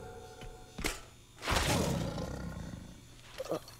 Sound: snarling

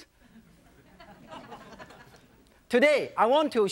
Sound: audience laughing

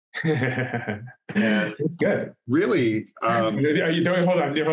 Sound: laughs

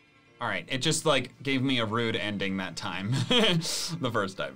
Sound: laughs

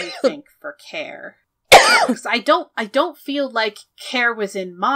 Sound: coughs

